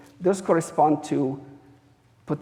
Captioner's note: none